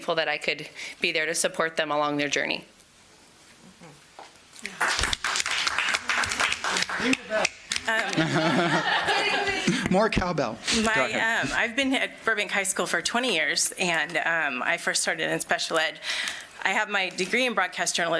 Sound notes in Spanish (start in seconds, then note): 2.5 Aplausos